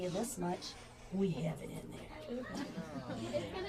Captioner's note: deep voice